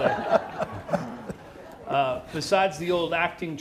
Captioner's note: crowd laughing